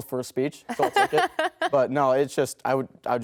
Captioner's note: laughs